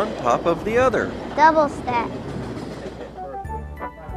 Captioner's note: train whirs; bouncy music